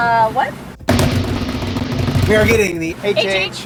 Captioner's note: banging on table